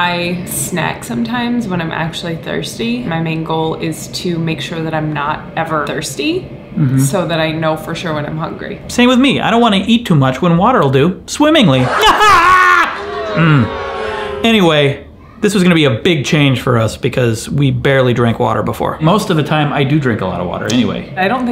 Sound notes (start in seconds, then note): 11.9 pretends to laugh; 13.4 audience boos